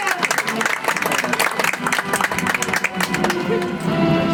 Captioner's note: audience applauds